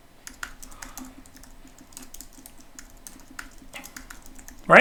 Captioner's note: keyboard clicking